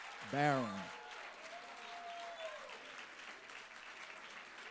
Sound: applause

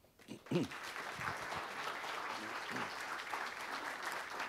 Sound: audience applauding

